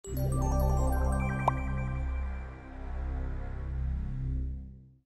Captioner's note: energetic music; graphic popping